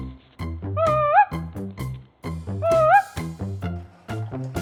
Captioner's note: ape-like call